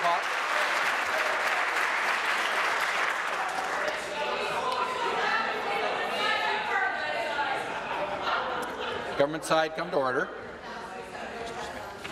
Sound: applause

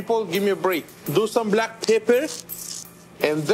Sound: grinder scraping

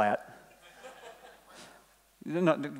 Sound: laughing

